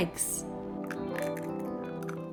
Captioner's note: eggs cracking